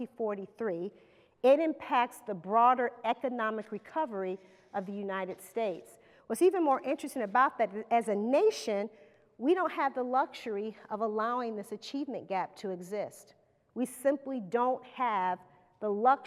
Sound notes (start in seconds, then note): none